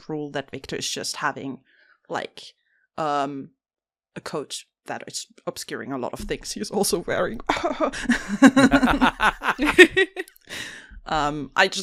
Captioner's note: laughs; laughter